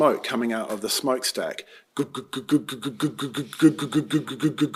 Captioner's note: mimics steamboat sound